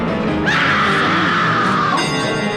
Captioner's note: screams